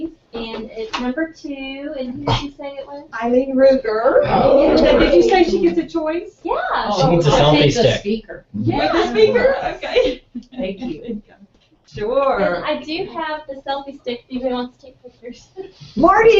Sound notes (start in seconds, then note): 12.2 laugh